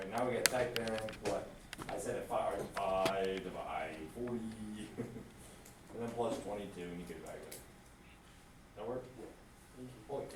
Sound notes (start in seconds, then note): 5.1 laughs; 9.5 voiceover